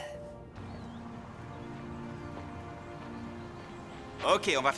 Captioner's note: birds chirping